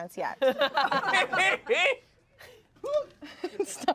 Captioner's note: everyone laughs